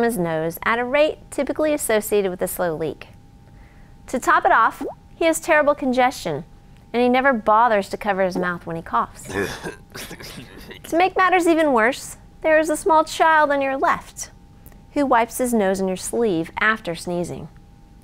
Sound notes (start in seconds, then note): 9.2 man coughing